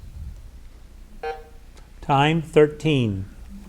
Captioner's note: button buzzing